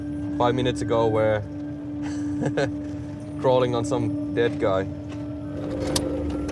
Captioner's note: laughs